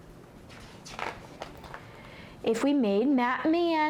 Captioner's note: pages flips